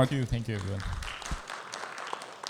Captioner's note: audience applauding